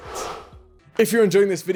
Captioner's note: swoosh